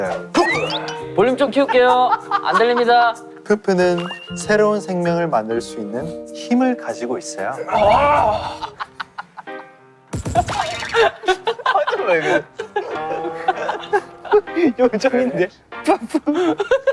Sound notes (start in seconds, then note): 12.8 unable to hold the laughter